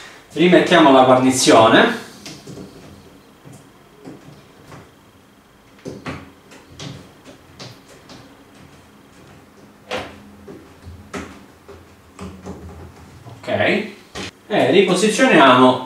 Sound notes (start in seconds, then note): 1.5 work noise